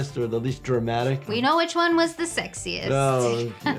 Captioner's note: laughs